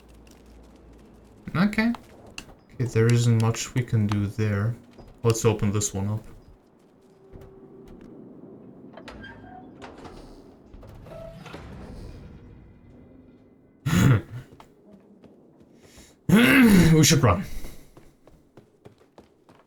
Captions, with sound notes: Okay. There isn't much we can do there. Let's open this one up. [Laughs] We should run.